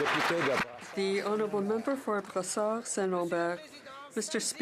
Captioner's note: some Applause